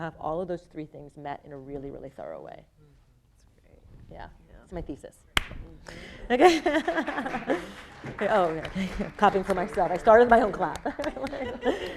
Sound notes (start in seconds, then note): 6.4 laughing; 6.8 audience applauding